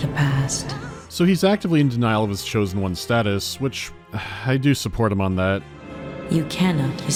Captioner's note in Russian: вздох